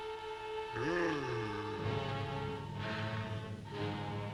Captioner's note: Popoca groaning